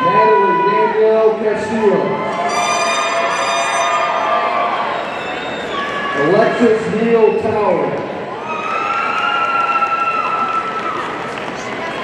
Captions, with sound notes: Natalie Danielle Castillo, (audience cheering) (party blower squeaking) Alexis Neale Towery, (audience cheering)